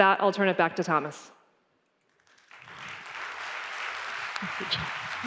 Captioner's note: applause